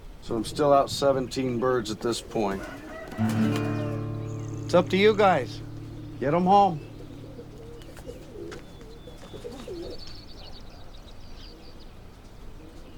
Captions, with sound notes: So I'm still out 17 birds at this point. (rooster crowing) (classical guitar music) It's up to you guys. Get 'em home. (pigeons cooing) (Birds chirping)